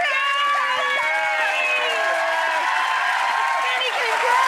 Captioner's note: applause and cheering